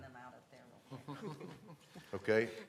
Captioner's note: laughter